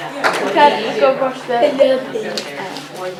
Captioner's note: chatter